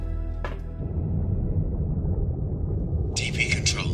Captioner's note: submersible droning